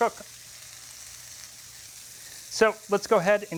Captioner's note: sizzling